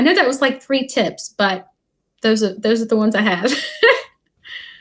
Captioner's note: laughing